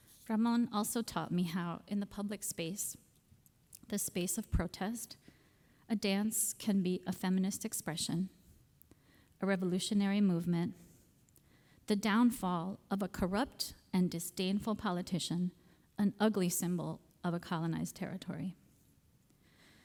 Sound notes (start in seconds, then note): none